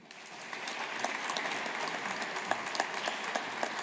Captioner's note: audience applauding